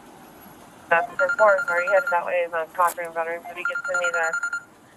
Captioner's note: radio chatter